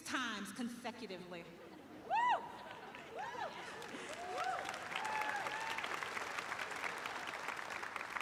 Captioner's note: applause